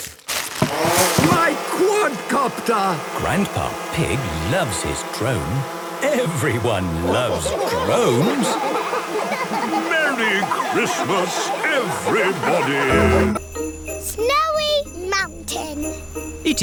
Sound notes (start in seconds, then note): 6.9 laughter